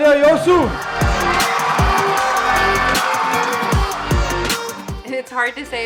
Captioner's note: audience cheering; audience applauding